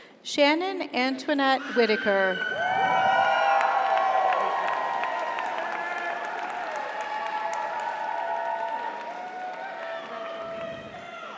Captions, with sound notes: Shannon Antoinette Whitaker. (audience applauds) (audience cheers)